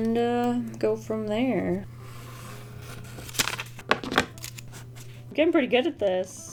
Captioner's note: origami making noises